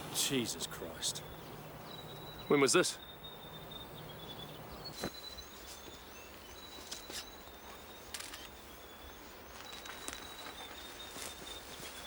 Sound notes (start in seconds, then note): 4.5 birds chirping; 8.1 camera shutter clicks